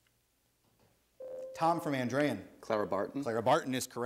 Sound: ding

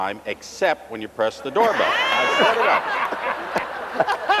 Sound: laughter

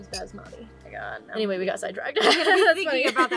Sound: laughs

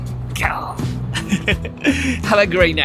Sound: lion roar in Japanese

